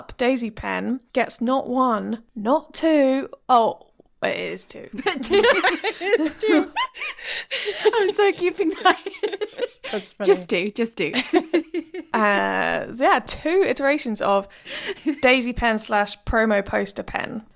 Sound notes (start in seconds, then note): 4.9 laughing; 9.6 laughing